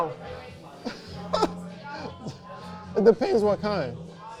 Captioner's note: laughing